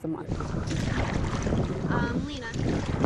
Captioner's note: water splashing